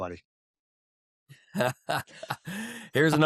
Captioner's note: laughter